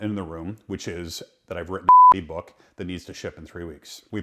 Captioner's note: beep